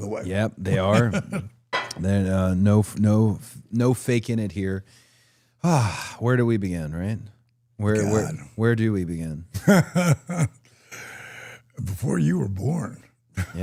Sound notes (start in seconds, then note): 9.6 Dallas laughs